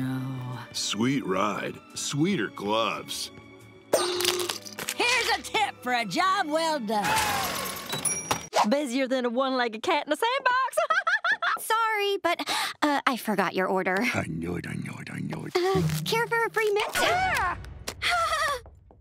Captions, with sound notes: Sweet ride. Sweeter gloves. Here's a tip for a job well done. Busier than a one legged cat in a sandbox. [laughing] Sorry, but, uh, I forgot your order. I knew it, I knew it, I knew it. Uh, care for a free mint? [screaming] [whimpering]